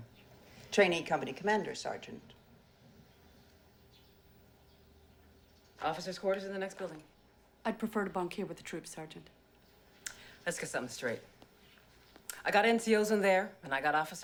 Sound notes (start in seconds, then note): none